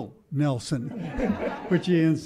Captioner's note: laughter